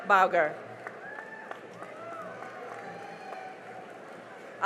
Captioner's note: cheering and applause